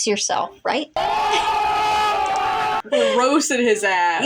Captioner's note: ohhhhhhhh; giggle